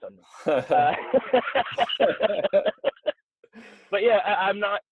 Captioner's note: both laughing